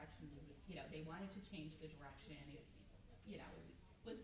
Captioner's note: stammers